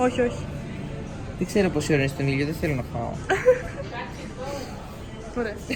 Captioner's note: giggles